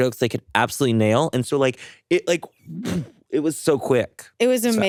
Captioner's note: whooshes